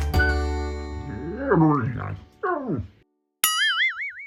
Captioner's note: Garfield howls～